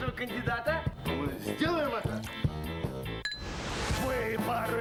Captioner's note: ringing glasses